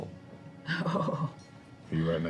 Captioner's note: laughs